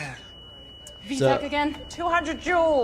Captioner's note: flatline beeping